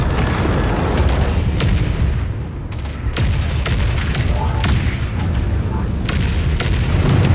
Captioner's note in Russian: гулкие пушечные выстрелы